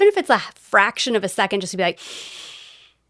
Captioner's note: inhale